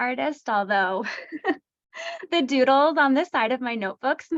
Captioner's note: laughter